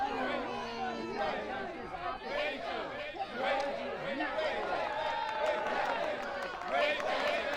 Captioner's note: crowd; crowd cheers and claps